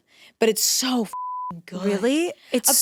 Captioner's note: beep